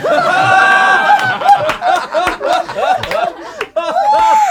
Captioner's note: group laughs